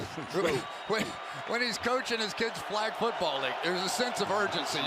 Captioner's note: laughs